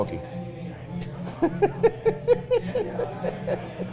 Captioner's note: both laughing